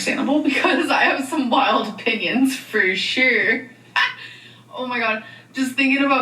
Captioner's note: laughs